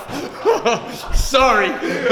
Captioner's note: laughter